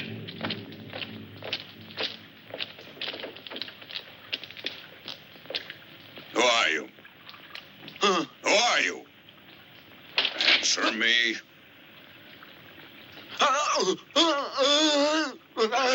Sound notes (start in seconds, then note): 7.7 grunts; 13.1 grunting